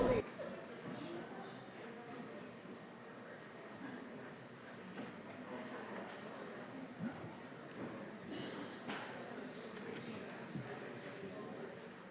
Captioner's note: general chatter